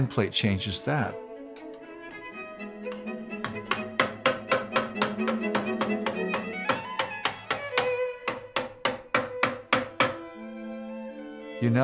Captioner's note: hammering metal